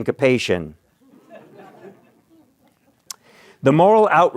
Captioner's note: laughter